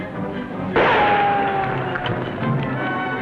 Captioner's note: gunshot